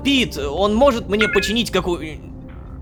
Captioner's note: notification sound